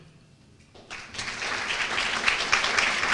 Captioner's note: applause